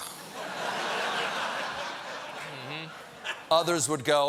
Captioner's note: laughter